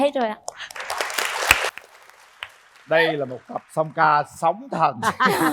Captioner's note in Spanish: Aplaudir